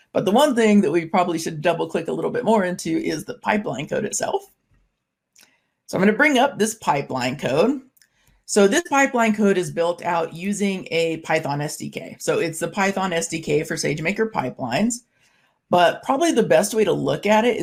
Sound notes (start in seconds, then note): none